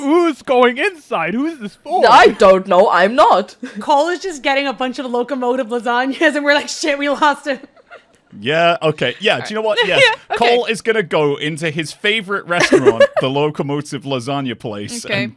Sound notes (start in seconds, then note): 8.8 laughs; 9.5 laughter